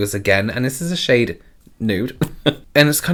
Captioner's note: chuckles